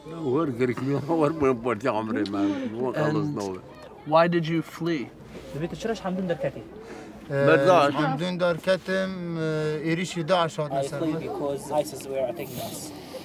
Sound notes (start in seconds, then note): 4.0 speaking foreign language